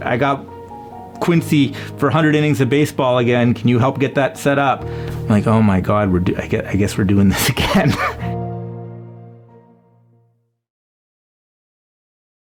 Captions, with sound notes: I got Quincy for 100 innings of baseball again, "can you help get that set up?" I'm like, "Oh my God. I guess we're doing this again." [laughs]